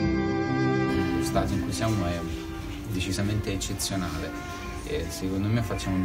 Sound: speaking foreign language

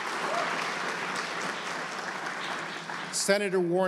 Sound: applause

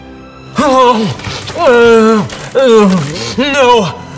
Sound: agressive kissing noises

